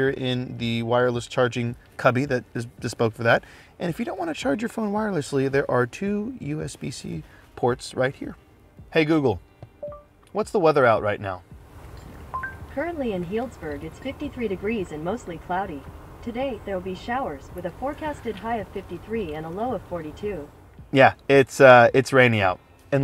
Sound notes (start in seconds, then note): 9.8 monitor beeps; 12.3 beeps